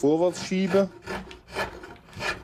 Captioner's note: scraping noises